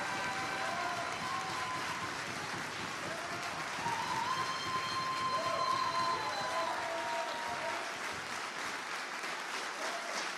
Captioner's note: applause